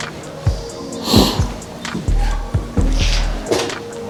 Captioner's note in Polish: parsknięcie